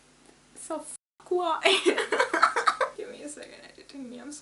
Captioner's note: laughs